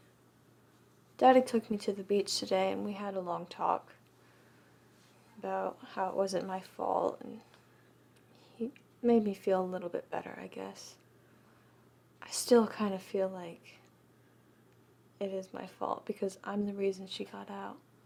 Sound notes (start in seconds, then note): none